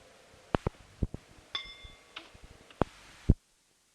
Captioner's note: bell Sound